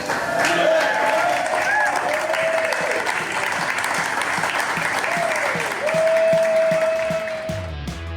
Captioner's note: crowd clapping and cheering